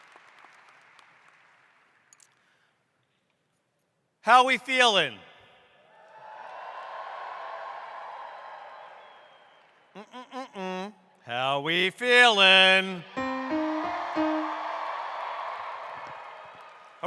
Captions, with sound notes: How are we feeling? [CROWD] How are we feeling? [PIANO & CROWD]